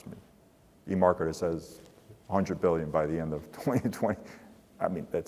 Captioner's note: laugh